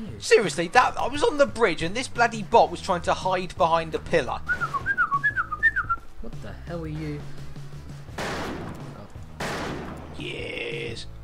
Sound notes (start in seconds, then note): 4.4 whistling for no purpose